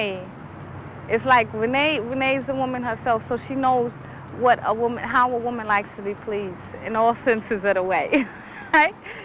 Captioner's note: giggles